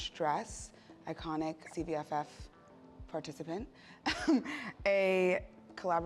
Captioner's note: laughs